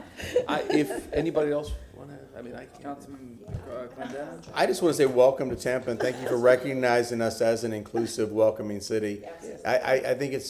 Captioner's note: laughter